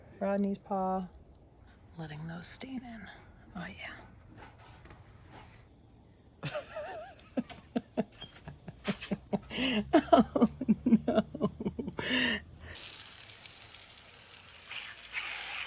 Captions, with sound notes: Rodney's paw. I'm letting those stain in. Oh yeah. (laughs) Oh no. (water spraying)